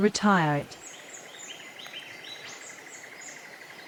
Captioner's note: birds sounds and chirps